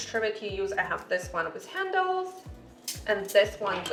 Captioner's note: metal clanging